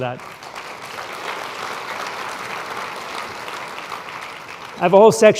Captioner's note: applause